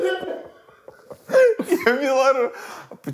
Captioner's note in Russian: смеётся